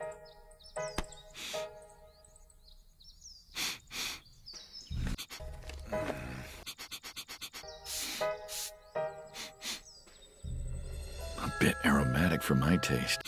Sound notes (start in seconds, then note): 3.5 sniff; 6.5 sniff sniff